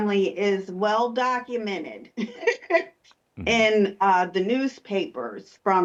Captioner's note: laughs